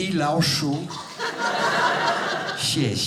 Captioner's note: speaking Chinese; audience laughing; speaking Chinese